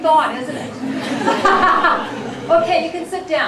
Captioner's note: laughter